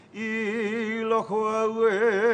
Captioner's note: chanting